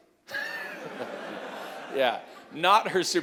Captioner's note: laughter